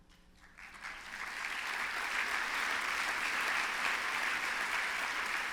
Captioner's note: applause